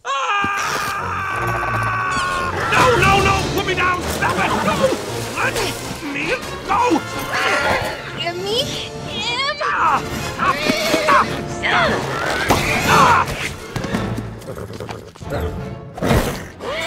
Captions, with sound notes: (screaming) - No, no, no. Put me down. Stop it. No. Let me go. - Give me him. (grunting) (yelling) (neighing) - Stop. Stop. (yelling) (grunting) - Ahh. (neighing)